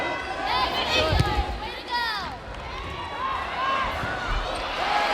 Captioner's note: crowd cheering